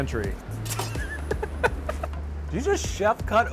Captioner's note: laughs